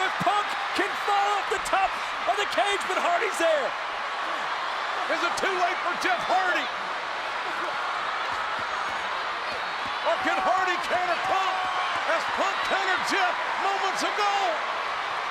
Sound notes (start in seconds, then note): 7.5 crowd cheers